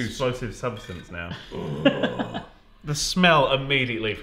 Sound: laughs

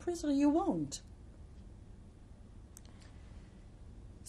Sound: pauses for 3 seconds

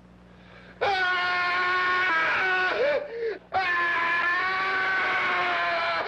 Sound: Roy screaming disturbingly

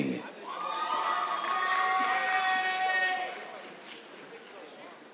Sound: cheers, applause

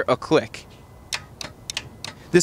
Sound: relay clicking

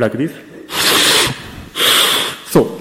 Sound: sucking in air noisily; sucks air in

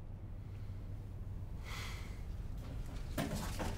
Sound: he sighs

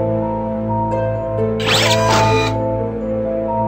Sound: whirring

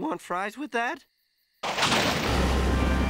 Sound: thunder

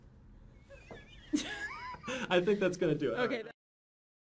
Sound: laughing

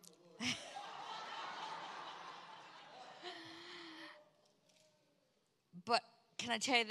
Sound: congregation laughs

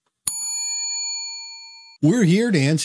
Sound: bell dings

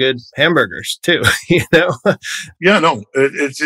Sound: laughter

